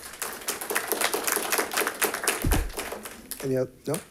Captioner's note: audience applauding